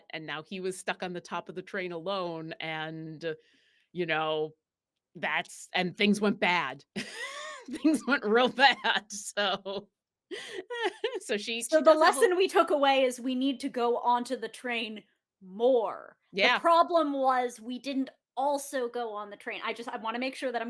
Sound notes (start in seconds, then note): 7.0 laughs